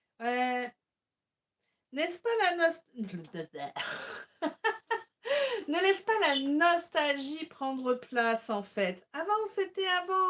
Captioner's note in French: rires